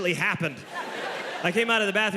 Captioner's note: audience laughing